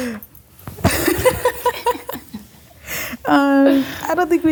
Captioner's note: laughing